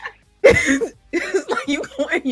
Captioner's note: laughing